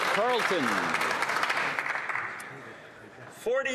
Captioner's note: some Applause